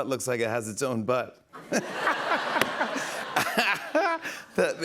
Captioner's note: laughter